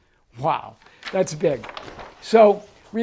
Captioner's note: paper crinkling